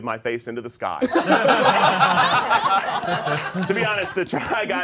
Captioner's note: all laughing